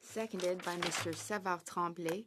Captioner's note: speaking French